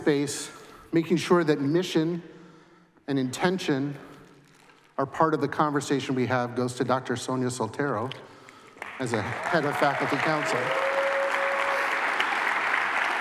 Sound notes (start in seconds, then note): 10.8 applause